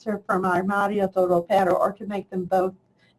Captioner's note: speaks in foreign language